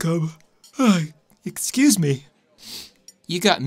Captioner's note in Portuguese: Bocejo; Sniffs